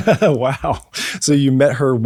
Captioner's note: laughs